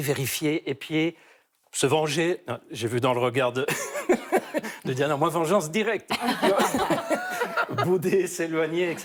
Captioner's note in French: rires